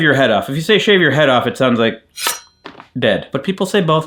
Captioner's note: blade clinks